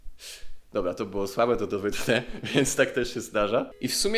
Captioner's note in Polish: śmiech